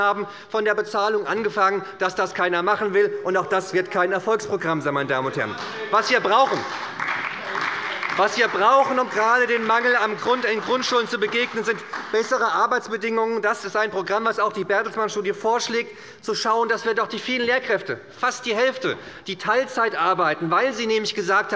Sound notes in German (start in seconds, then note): 6.0 Beifall bei der SPD